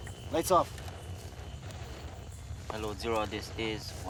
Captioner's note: radio static